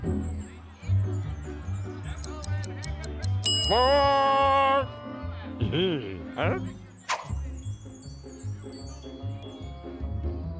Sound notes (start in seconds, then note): 2.2 watch ticking; 3.4 bell rings; 5.6 chuckles